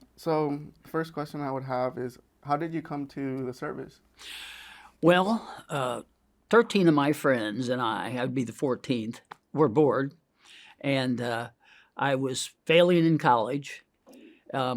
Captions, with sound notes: So, first question I would have is how did you come to the service? - (inhales) Well, 13 of my friends and I, I'd be the 14th, were bored and I was failing in college,